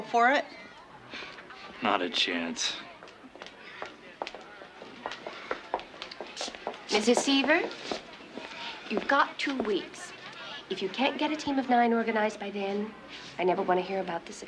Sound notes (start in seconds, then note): none